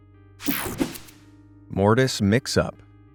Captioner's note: graphic whooshing